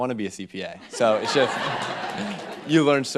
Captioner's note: group laughs